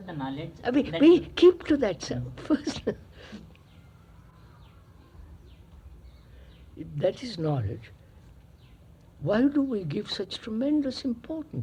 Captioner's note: laughs